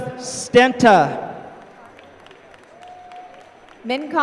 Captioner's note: applause